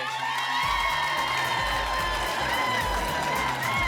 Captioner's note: applause, cheering, laughter